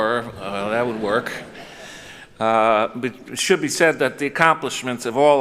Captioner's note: chuckles